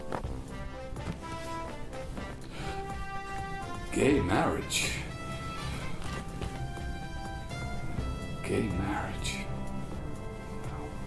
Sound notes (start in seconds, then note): 1.3 TV noises; 5.5 instrumental music